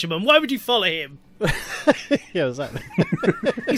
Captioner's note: laughs